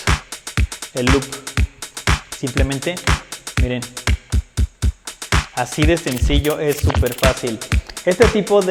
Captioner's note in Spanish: scratch